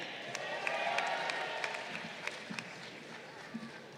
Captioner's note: crowd applauding